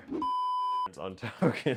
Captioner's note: beep